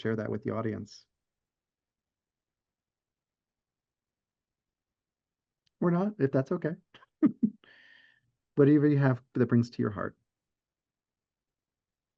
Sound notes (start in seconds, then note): 7.1 chuckles